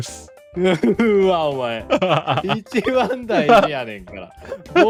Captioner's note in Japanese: 笑い